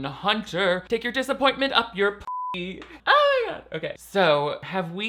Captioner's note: beep